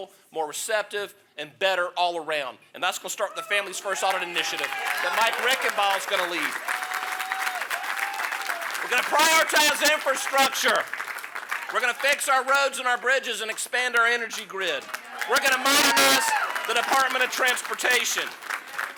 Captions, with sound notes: more receptive, and better all around. And that's gonna start with the Families First Audit Initiative, that Mike Reichenbach is going to lead. [applause] We're gonna prioritize infrastructure. We're going to fix our roads and our bridges and expand our energy grid. We're going to modernize the Department of Transportation.